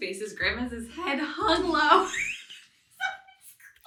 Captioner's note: laughs